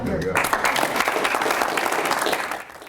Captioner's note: applause